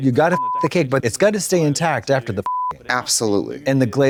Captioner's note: beep